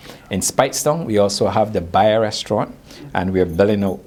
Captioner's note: faintly speaking